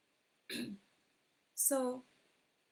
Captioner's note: subtle cough